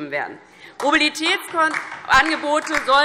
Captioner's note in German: Beifall DIE LINKE